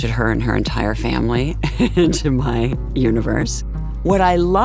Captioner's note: laughs